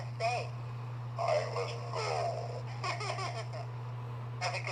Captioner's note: giggles